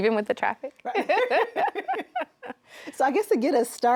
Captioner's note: laughing